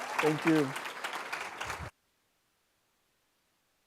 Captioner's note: applause